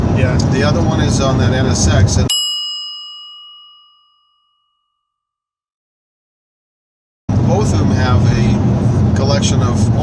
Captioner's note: bell dings